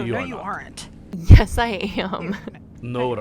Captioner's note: laughing